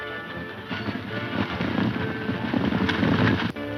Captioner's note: horses galloping